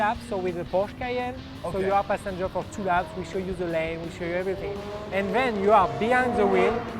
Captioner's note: car revs/whirs